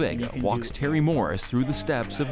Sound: both chatter

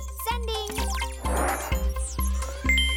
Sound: beeping; chiming

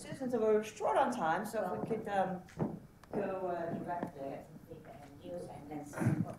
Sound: murmuring

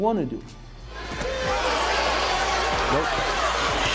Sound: crowd yelling

